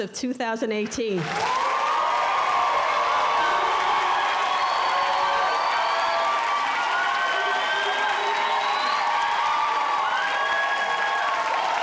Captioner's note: excited cheering/applause